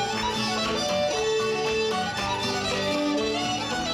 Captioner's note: audience clapping